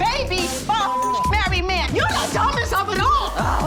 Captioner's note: beep